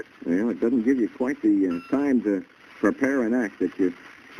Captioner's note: on phone